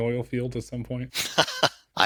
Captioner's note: laugh